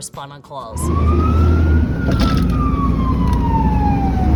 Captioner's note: siren wailing